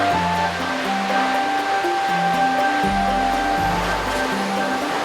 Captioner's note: rhythmic intrigue music; waterfalls sounds